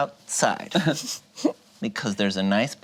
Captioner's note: group chuckles